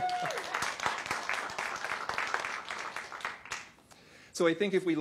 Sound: applause

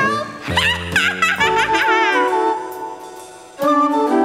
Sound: cackling

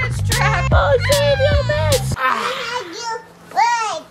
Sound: crying

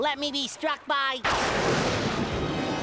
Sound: thundering

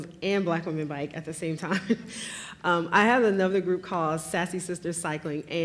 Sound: laughs

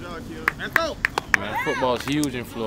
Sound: clapping

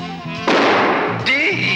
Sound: boom!

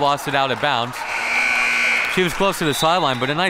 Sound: siren buzzing

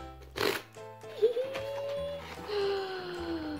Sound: gasp

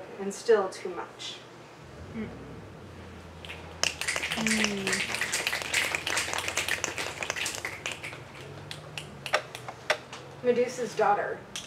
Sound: audience mms and snaps

